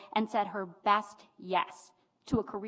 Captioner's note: none